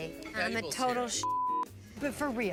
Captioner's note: beep